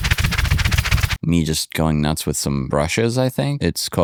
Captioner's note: rattling